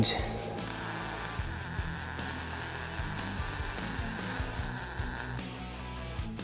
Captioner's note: intense rock music; tool whirring